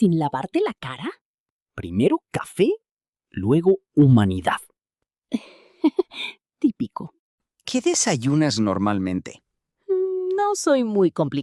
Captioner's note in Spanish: risas